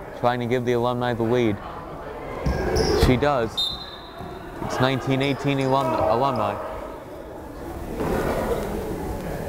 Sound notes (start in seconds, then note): 3.5 whistle blows